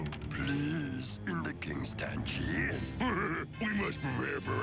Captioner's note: sarcastically